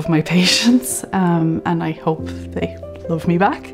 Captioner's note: chuckles